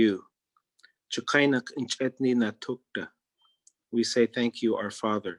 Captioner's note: speaking in Native Language